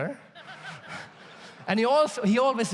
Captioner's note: audience laughs